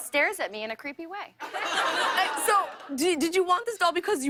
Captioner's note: laughter